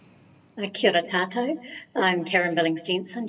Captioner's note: speaks foreign language